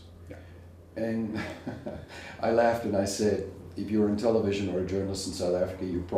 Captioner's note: laugh